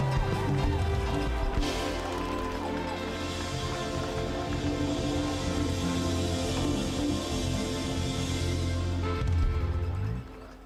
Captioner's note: cheers and Applause